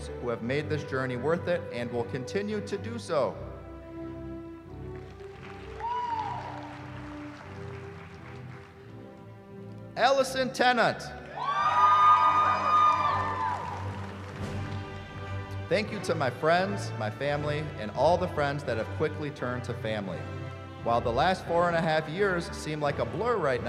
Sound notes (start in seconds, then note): 4.9 applause; 11.2 cheering